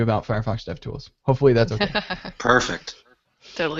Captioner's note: laughs